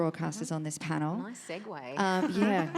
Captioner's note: crowd laughs